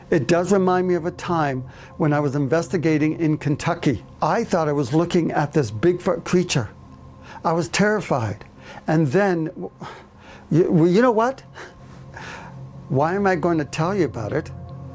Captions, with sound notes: It does remind me of a time when I was investigating in Kentucky. I thought I was looking at this big foot creature. I was terrified. And then-well, you know what, (chuckles) why am I going to tell you about it?